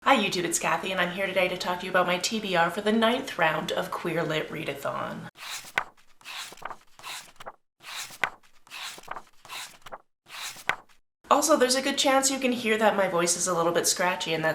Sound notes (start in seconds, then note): 5.3 pages turning